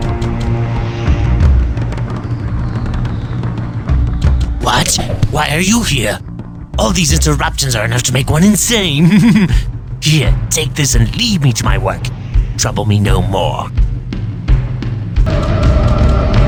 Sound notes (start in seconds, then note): 7.6 瘋狂的笑聲; 7.6 mad laughter